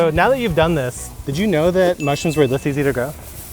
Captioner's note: chime ringing